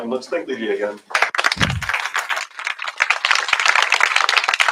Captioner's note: applause